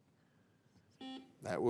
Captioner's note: signal beeps